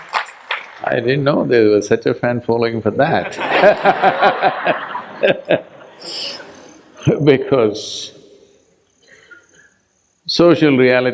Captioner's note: laughter